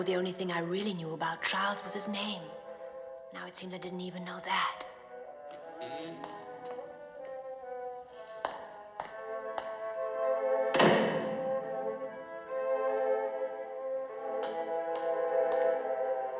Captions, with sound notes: Until two days ago the only thing I really knew about Charles was his name. Now it seems I didn't even know that. [Door Closes]